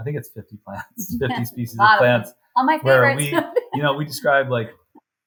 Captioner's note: laughs